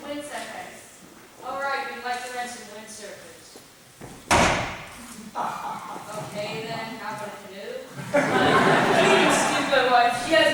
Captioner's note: Mimi bangs on desk